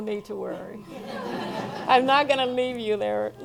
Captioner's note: laughing